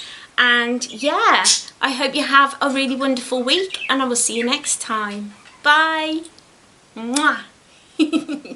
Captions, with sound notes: and yeah i hope you have a really wonderful week and i will see you next time bye mwah (giggles) xx